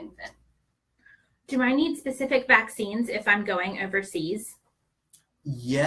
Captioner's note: off-screen voice